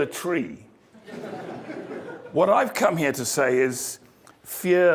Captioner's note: laugh